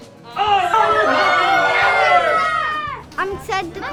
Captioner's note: cheering